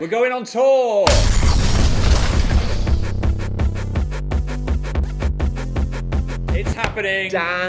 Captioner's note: screen booming